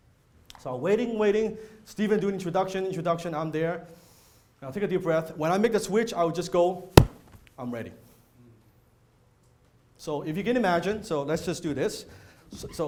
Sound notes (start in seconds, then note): 7.0 body clap